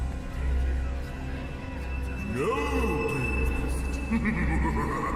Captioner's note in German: Gelächter